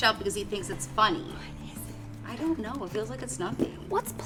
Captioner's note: none